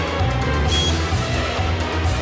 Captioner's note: exciting music; key beeps